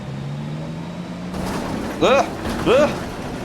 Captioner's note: clunk